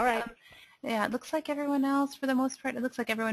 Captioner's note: voiceover